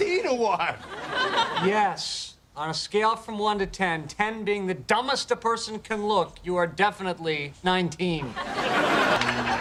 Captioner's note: laughter